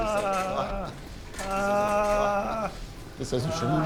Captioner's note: man moaning loudly in pain